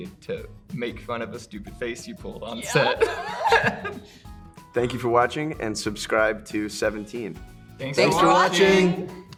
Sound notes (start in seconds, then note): 2.6 laugh